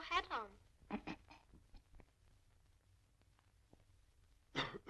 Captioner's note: chuckling